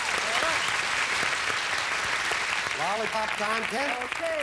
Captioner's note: audience applauding